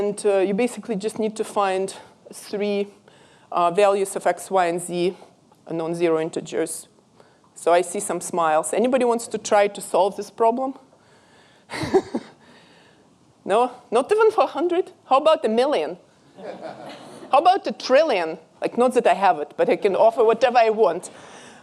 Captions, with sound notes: And you basically just need to find three values of x, y, and z, unknown zero integers. So I see some smiles. Anybody wants to try to solve this problem? (laughs) No? Not even for 100? How about a million? (audience laughing) How about a trillion? Not that I have it, but I can offer whatever I want.